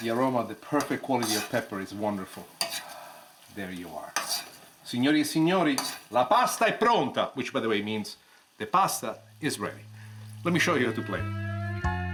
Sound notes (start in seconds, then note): 4.9 speaks in foreign language